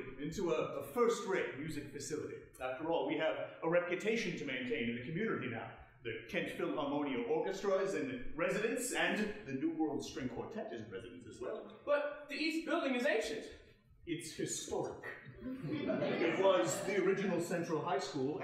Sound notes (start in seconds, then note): 15.4 audience laughing